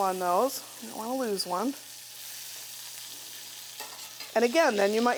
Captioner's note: beans sizzling